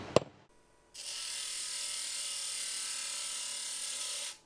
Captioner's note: sander whirring